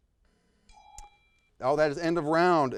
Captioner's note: bell rings